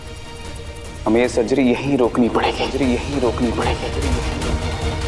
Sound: reverbs

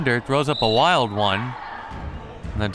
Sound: whistle

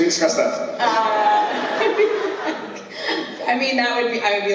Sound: laughs

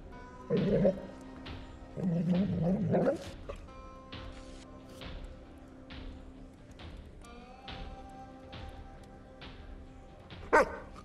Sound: happy doggo noises

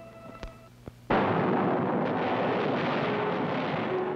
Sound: guns firing

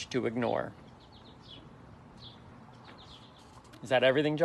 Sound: birds chirping

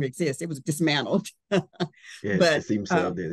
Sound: laughs

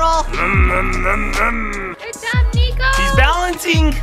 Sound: imitating car revving

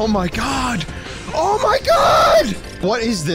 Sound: shouting

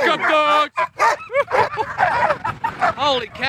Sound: dogs barking

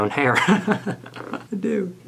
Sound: man laughing

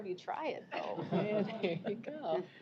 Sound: chuckling

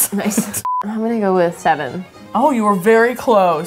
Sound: beeps

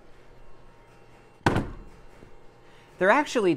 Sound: balump

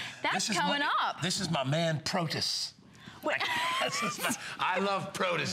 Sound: laughter

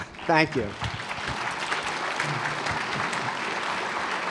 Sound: applause

